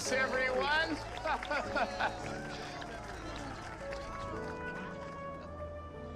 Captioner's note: mayor laughing